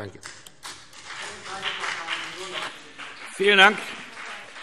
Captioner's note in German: Beifall BÜNDNIS 90/DIE GRÜNEN und vereinzelt CDU